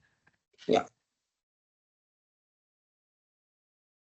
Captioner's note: silence